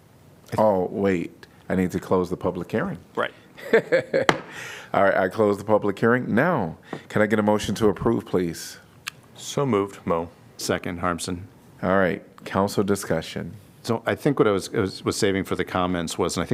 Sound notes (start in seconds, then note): 3.6 laughter